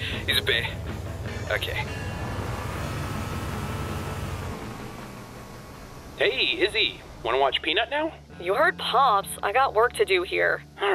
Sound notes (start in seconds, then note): 2.2 Warthog drives off